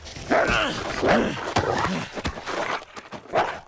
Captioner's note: wolf barking; grunting